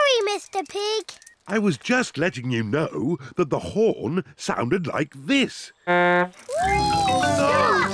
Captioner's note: honks horn